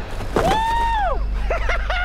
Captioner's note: laughs